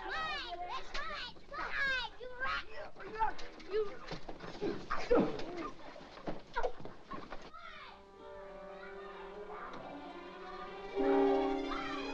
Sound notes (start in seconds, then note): 0.0 children fighting loudly; 4.5 sounds of struggling; 8.6 children squawking; 9.7 suspenseful music